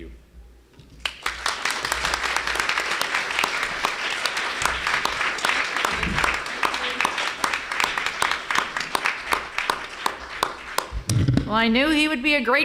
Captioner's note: applause